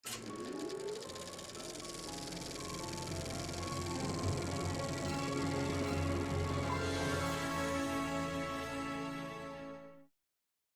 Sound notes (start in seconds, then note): 0.0 film projector clicking and whirring; 2.7 soft dramatic orchestral music